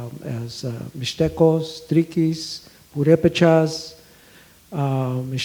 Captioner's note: speaks foreign language